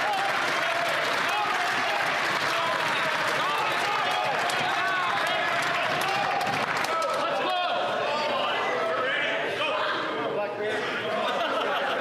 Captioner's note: some Applause